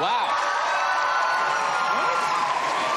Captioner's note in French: applause